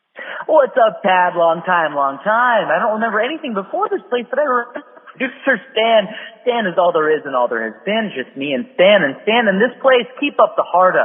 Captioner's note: phone message